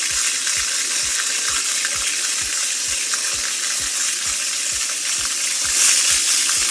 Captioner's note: water splashing